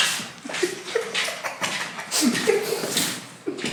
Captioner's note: laughing